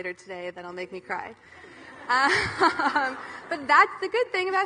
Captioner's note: audience laughing